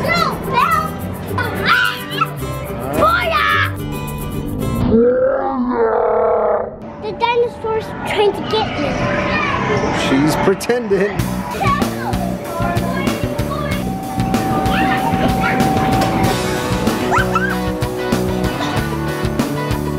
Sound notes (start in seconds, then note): 4.4 slow motion yelling; 12.0 upbeat music